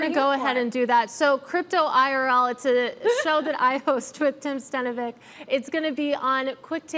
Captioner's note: laughter